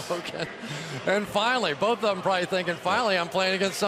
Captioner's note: laughs